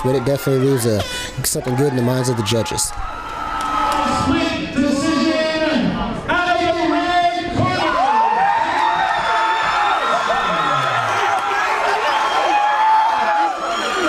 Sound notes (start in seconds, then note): 2.8 crowd cheering